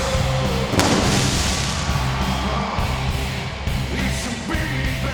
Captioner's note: explosion booms